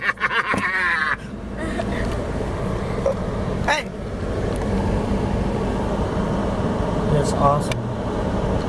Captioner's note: laughs maniacally